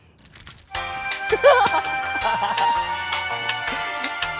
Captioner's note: flying fish laugh